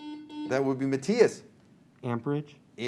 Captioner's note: buzzer